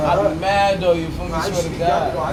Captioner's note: laughing